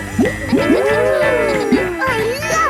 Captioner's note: kids gasping and laughing